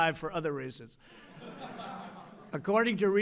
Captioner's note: laughter